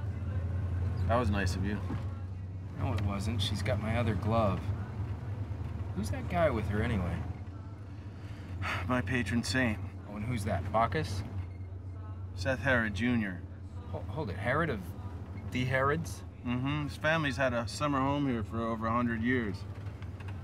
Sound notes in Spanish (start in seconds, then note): 8.4 suspira